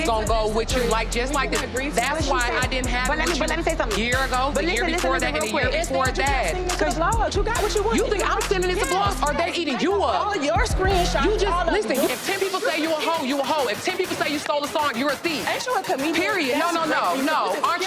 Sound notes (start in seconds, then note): 13.2 claps hands